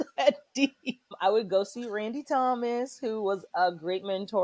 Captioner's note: laughter